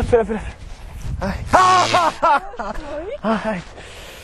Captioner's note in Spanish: Gritos